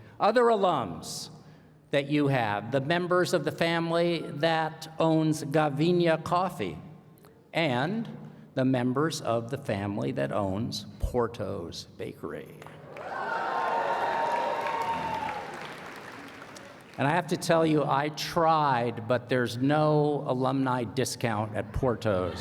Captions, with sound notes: Other alums that you have, the members of the family that owns Gavina Coffee. And the members of the family that owns Porto's Bakery. [ Applause ] And I have to tell you, I tried but there's no alumni discount at Porto's.